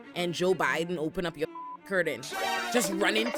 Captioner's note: beep